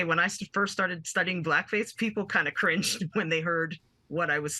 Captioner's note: laughing